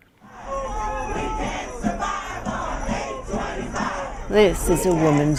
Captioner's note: crowd